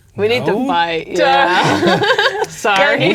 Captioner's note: laughing